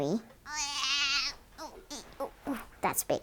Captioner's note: groans